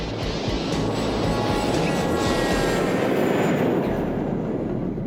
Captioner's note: jet engine droning; gentle instrumental music